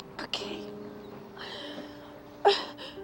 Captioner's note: sobbing